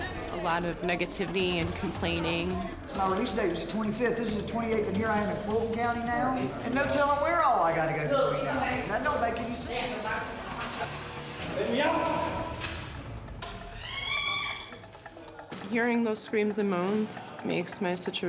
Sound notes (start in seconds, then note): 13.8 inmate screaming